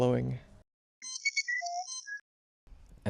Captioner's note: beeping sounds